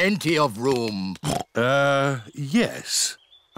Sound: oinks

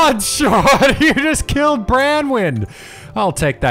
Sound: laughing

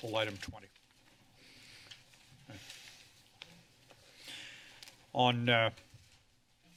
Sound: paper rustling

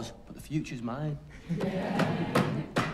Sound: banging on desks

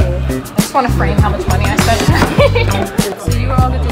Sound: laughs

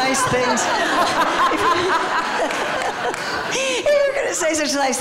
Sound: laughter

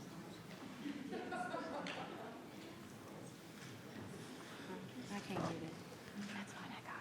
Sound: people laughing and chattering

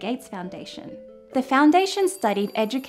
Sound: phone ringing

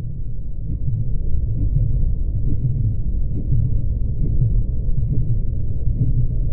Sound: heart beats; water rumbling

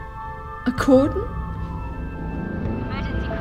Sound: siren wailing

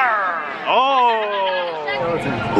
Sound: laughing

